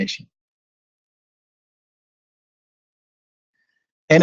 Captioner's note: silence